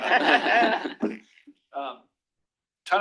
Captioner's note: laughter